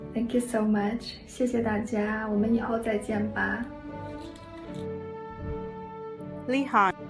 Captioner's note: speaking foreign language